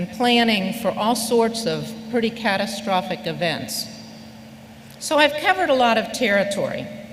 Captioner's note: none